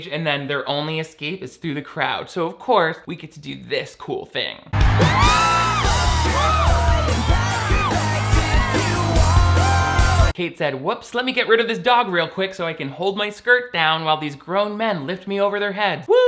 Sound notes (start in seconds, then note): 4.7 crowd cheering; 4.8 both sisters screaming